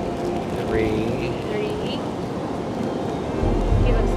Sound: voiceover

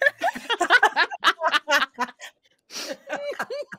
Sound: all laughing

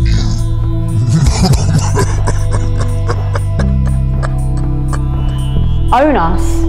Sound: laughter

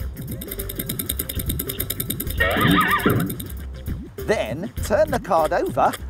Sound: clock ticking

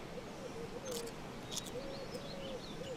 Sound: biting

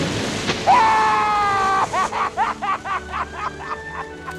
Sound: Brody screams

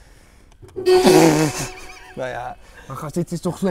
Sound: klaxon

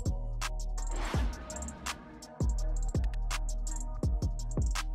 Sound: air whooshing

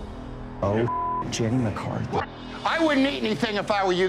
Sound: beep

